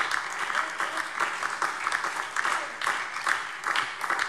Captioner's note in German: Lebhafter Beifall DIE LINKE, SPD und Freie Demokraten